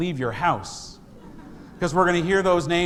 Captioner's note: congregation laughs